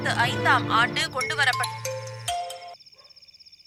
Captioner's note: phone ringing